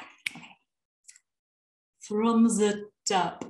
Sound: accented

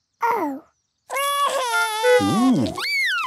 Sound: cries

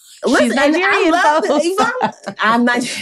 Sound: laughing

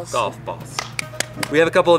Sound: hands clapping

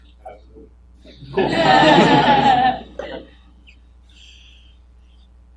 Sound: laughing

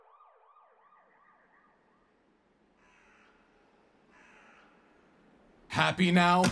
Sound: ambulance sirens; bird song

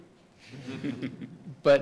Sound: laugh

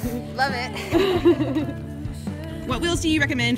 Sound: laughing

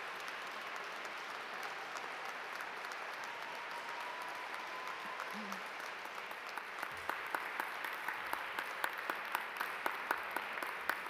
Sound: cheers and applause

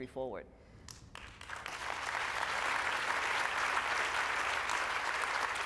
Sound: applause

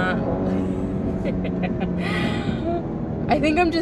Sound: laughing

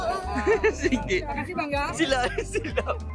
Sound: laugh

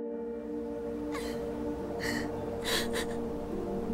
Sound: crying, sobbing

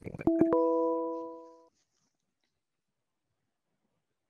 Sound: bell dinging

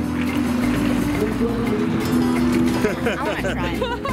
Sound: laughs

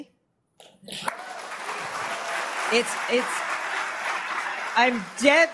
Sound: cheering, applause

